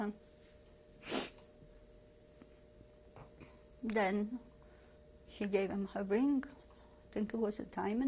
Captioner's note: pauses for 3 seconds